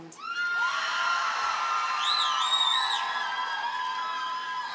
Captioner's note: audience cheers and applauds